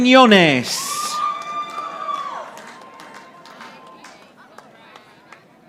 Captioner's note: audience applauding